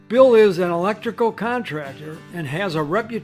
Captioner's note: voiceover